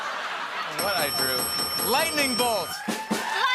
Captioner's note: laughter; dinging